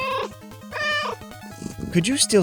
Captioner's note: meow